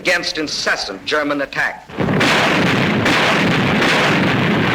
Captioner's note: bombs exploding